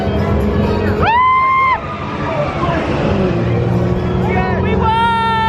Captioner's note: screams